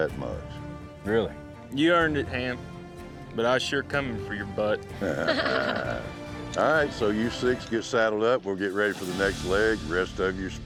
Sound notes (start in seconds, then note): 5.0 all laughing